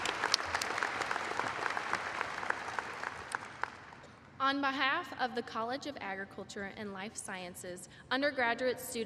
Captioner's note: applause